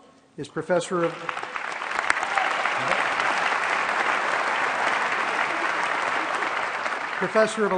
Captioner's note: applause